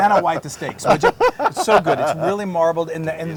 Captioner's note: laugh